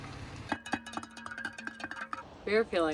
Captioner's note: tumbler clanking